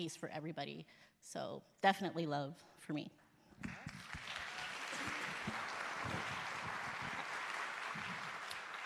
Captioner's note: applause